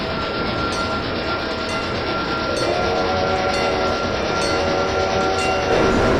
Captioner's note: wig wag bell ringing; wig wag bell ringing, AFT's whistle